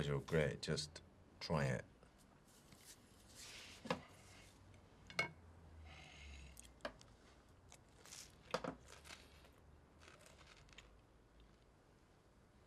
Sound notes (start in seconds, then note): 9.9 food crunching